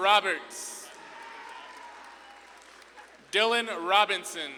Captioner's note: audience claps and cheers